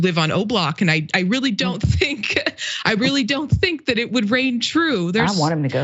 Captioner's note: laugh